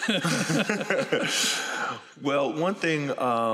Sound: laughter

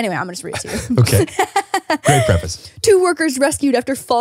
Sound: laughs

